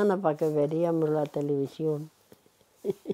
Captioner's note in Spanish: Ríe